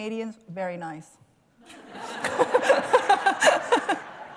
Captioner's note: laughter